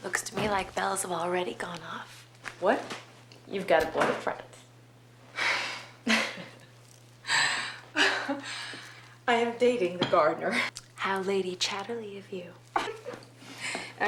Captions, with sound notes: - Looks to me like bells have already gone off. - What? - You've got a boyfriend. (laughing) - I am dating the gardener. - How Lady Chatterley of you.